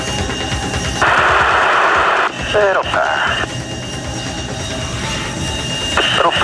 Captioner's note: static buzzing